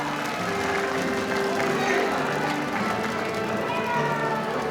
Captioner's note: crowd cheering